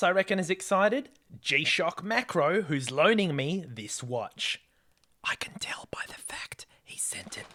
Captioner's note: whispers